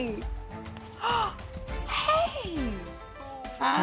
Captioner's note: gasps